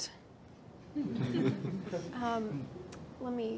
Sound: group laughing

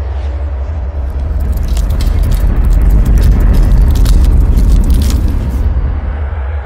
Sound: metal clinking

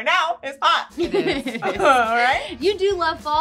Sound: all laughing

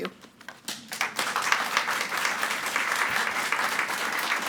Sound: audience clapping

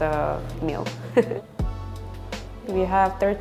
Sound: laughs

